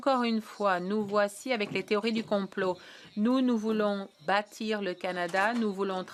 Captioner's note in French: voix de l'interprète